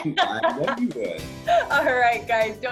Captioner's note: laughs